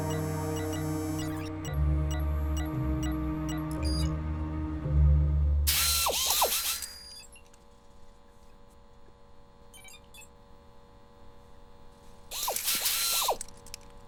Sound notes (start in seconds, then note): 5.7 whirring; 12.3 whirring